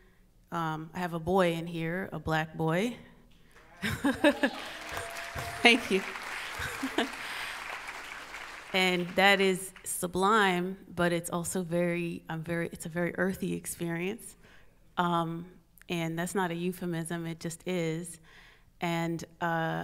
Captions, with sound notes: I have a boy in here, a black boy. (audience cheers) (audience applauds) Thank you. (audience applauds) And that is sublime, but it's also very, it's a very earthy experience, and that's not a euphemism, it just is, and